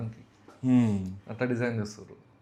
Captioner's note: clears throat